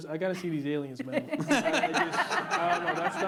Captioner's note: laughter